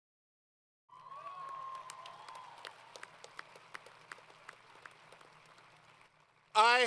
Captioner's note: applause & Cheering